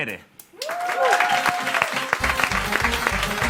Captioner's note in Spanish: Aplausos